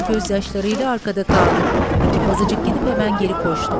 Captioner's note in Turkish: Gök gürültüsü sesi